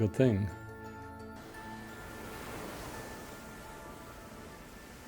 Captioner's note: waves rushing